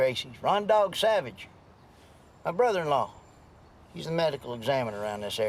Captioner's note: none